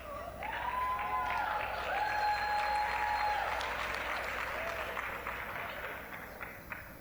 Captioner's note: applause, cheering